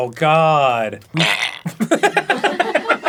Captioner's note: arin gagsfrom a wet place; everyone laughs at his haggis misfortune